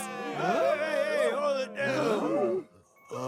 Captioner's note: crowd chatter